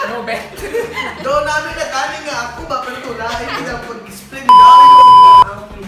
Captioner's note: bisaya language again